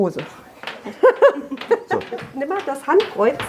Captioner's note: laughter